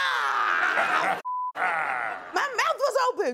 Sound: laughing

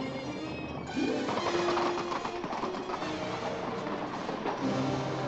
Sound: suspenseful music; hooves pounding; suspenseful music

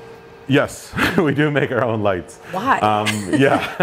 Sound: both laugh; laughs

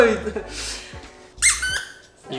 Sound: squeaks

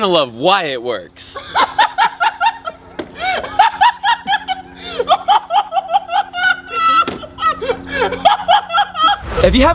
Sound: laughter

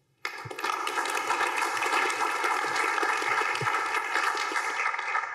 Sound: applause

